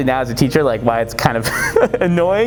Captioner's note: laugh